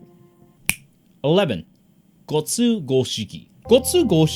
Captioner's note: fingers snap